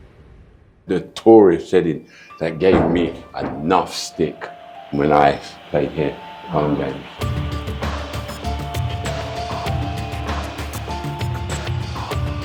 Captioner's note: applause